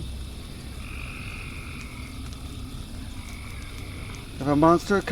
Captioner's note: crickets